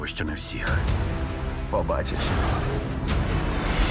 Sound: tires screech

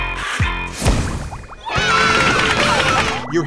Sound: cheering

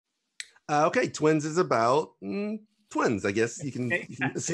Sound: hums; laughs

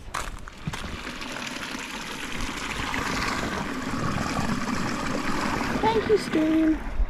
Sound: water running

